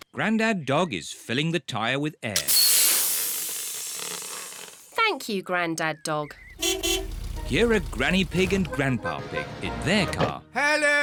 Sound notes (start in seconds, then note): 2.4 air hissing; 6.4 horn beeps